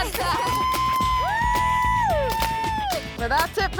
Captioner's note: women hollering